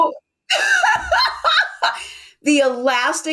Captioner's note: laughs